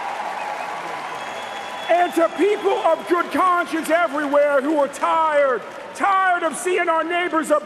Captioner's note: cheers and applause